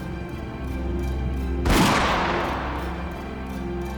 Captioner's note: gunshot